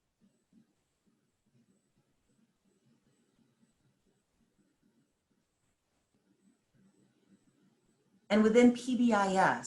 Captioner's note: silence